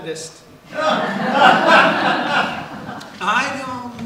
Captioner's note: audience laughs